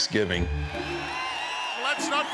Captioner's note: audience cheers